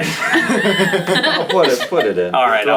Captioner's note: all laugh